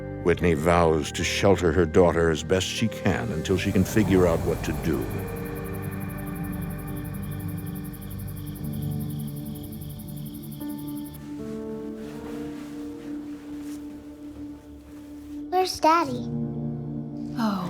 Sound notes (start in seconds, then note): 5.8 crickets chirping